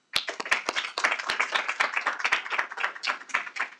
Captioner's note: clapping